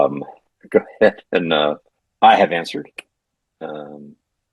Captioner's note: laughs